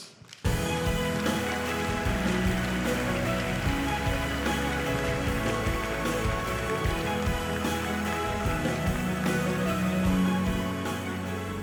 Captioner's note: applause